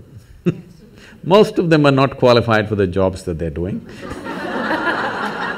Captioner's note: laughs; laughter